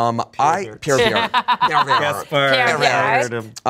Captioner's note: laughs